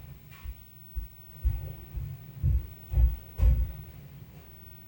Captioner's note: footsteps thumping